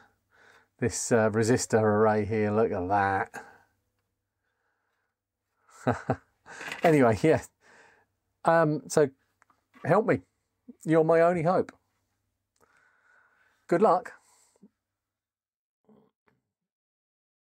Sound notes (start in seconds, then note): 5.8 laughs